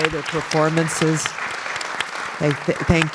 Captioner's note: applause